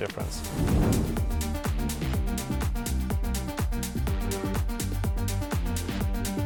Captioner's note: upbeat music; graphics whooshing